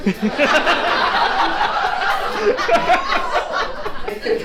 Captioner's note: audience laughs